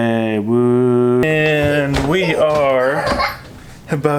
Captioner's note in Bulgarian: се смее